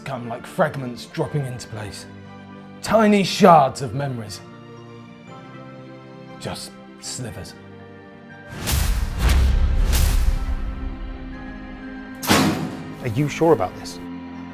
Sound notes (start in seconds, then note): 8.6 memory images thudding; 12.2 metal clicks